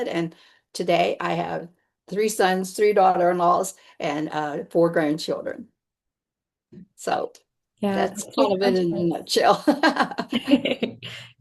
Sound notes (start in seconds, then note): 10.0 laughs